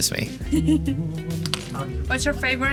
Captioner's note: artist laughing